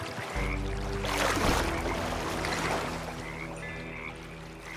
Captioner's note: frogs croaking